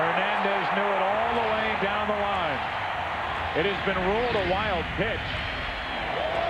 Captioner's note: cheering